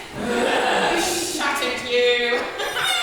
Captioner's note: audience laughs